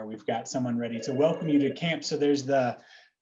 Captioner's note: telephone rings